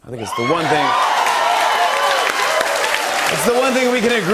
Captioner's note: cheers and applause